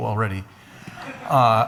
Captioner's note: laughs